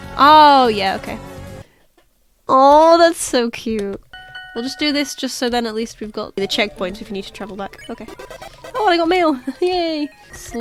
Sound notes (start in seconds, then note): 4.1 ding, ding ding!; 9.6 laughs